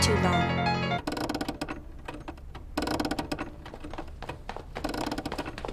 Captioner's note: piano music stops, SFX: clock being wound; SFX: footsteps